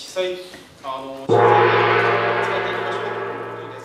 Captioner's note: gong